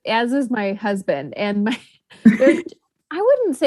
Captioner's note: laughs